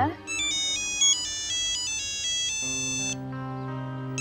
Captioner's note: phone ringing